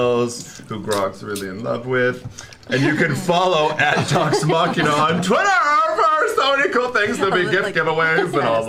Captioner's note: shouts